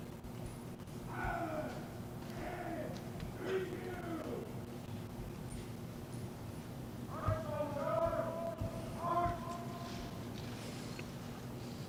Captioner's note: shouted commands